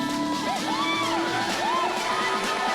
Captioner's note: audience cheering